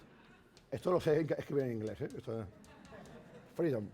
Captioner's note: speaking spanish